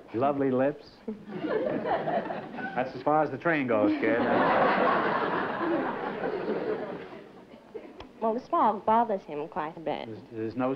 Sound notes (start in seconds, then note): 3.8 laughter